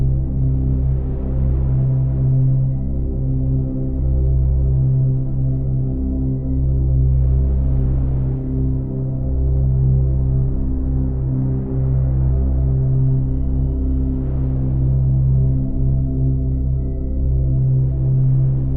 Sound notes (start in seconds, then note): 3.4 gentle calm music continues; 3.4 waves rustling